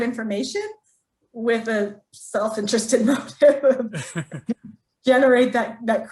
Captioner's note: laughs